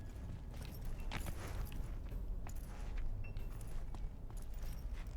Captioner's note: footsteps